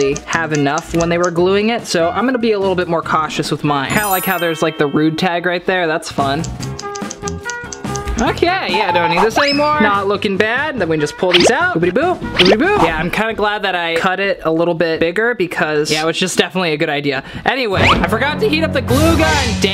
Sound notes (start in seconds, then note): 6.2 upbeat music; 6.4 scissors snipping